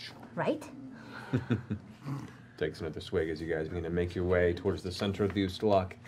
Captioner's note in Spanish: ríe quedamente